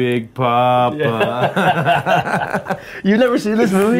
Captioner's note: players laughing